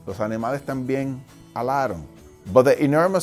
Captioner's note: speaking foreign language